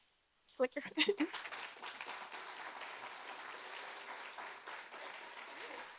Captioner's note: audience applauding